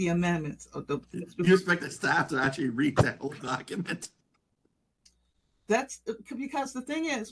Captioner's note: laugh